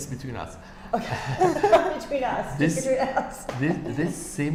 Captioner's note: laughing